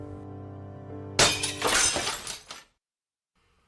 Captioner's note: window smashes!